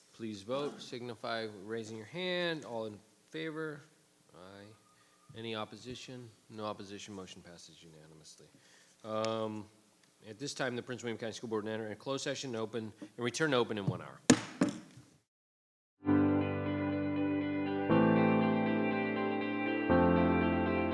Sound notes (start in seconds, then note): 13.8 gavel thudding; 16.1 bright upbeat music